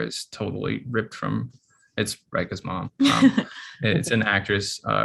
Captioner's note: chuckles